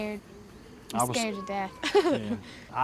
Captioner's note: laughs